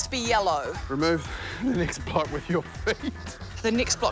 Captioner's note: laughs